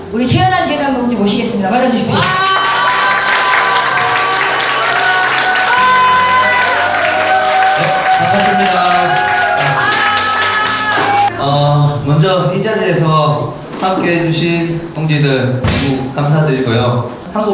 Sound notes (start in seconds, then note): 2.1 applause